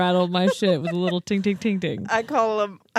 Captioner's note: imitates sound